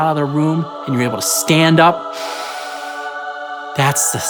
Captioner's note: breath inhaling